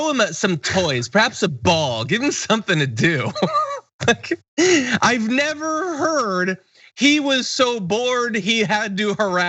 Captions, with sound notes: throw him some toys, perhaps a ball, give him something to do. [LAUGH] I've never heard, he was so bored he had to harass,